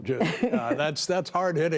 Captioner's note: laughter